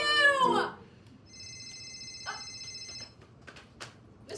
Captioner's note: phone ringing